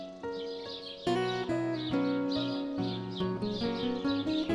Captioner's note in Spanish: pajaros y el rio fluiendo